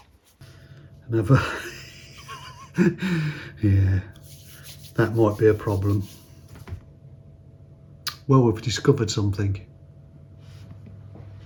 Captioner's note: laughs